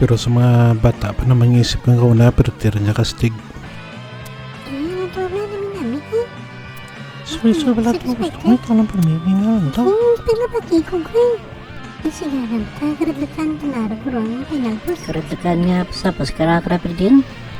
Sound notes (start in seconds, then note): 4.5 sounds of young brains blowing up